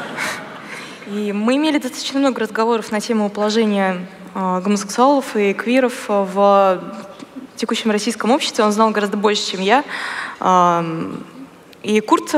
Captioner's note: foreign Language